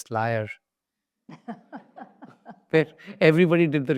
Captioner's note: laughs